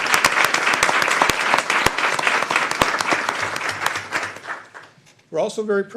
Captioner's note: applause